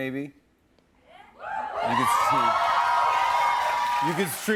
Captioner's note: audience cheers